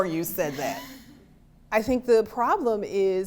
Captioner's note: laughter